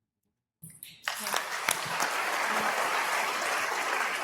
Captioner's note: applause